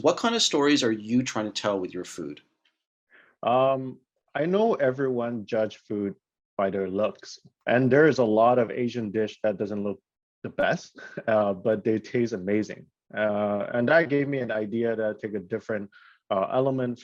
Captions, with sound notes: What kind of stories are you trying to tell with your food? - I know everyone judge food by their looks and there is a lot of Asian dish that doesn't look the best(chuckles) but they taste amazing. And that I gave me an idea that took a different element